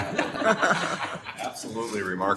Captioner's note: laughing